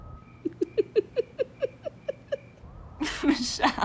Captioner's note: laughing